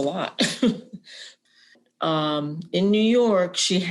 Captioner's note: laughter